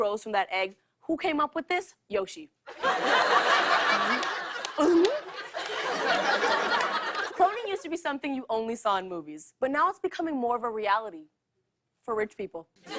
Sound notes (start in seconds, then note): 2.7 laughter; 3.5 gulping